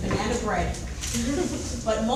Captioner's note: laughing